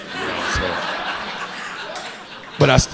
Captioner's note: audience laughing